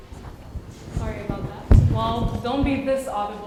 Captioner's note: audio Interference